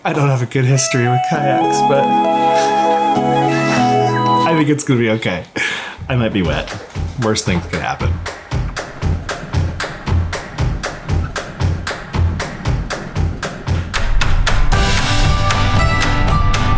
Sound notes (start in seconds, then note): 2.7 laughs; 2.7 sentimental music; 9.6 energetic upbeat music